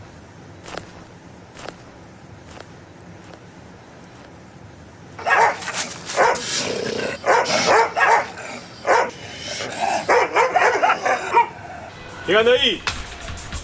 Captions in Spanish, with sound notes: (perros ladran) ¿Quien anda ahí?